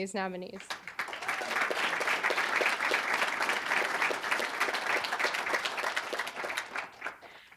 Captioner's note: applause